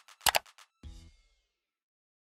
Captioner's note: mouse clicking